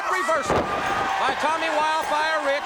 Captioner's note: crowd cheering